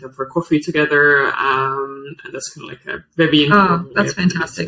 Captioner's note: faintly speaks